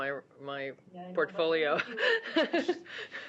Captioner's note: laughter